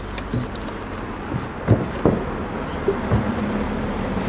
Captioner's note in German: Fernes Verkehrsrauschen, Vogelzwitschern